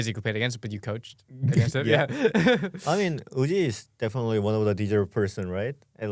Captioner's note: laughs